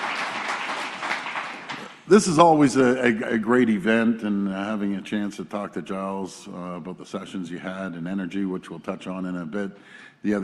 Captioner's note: applause